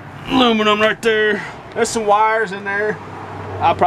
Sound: laugh

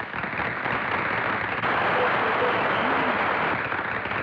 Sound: crowd Applauding

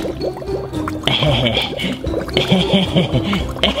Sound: laughs

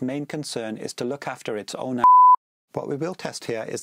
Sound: beep

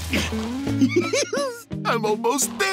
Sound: laughing

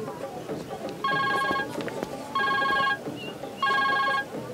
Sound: cellphone rings

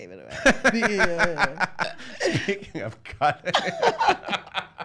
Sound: laughing

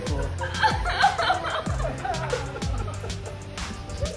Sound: weeping

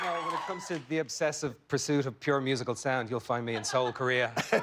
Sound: cheers and applause

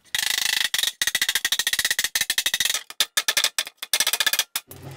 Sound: hammer tapping

